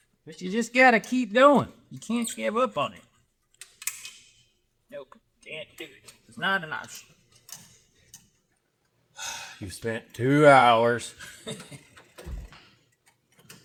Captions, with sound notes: But you just gotta keep going. You can't just give up on it. No, can't do it. It's not enough. You spent two hours. (Laughing)